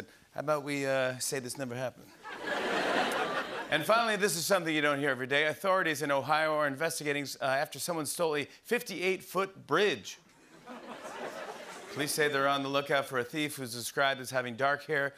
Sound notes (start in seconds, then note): 2.2 laughter; 10.6 light laughter